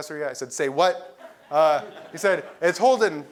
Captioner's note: laugh